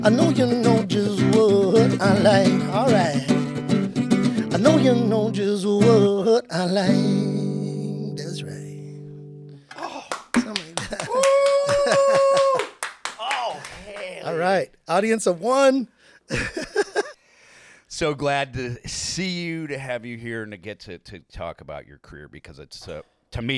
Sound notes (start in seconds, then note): 9.8 clapping and cheering; 16.3 laughing